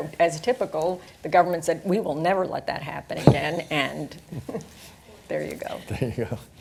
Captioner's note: laughter